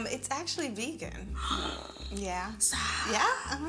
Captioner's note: gasps